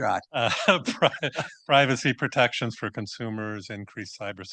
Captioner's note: chuckles